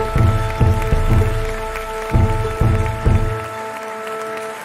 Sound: crowd cheering and applauding

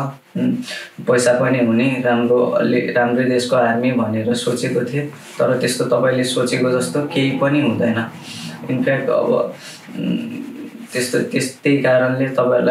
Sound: forign speech

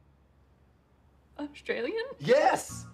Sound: American accent

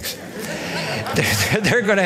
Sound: laughter

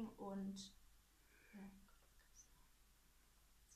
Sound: whispering

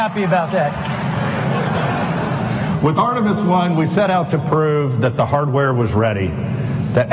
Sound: laughter

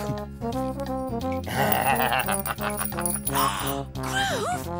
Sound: bell jingles

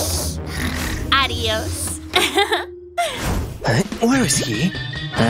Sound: groans; snoring

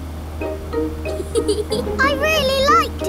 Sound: george chuckling

